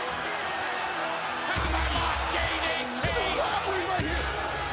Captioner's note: crowd cheering